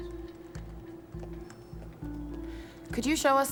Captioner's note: footstep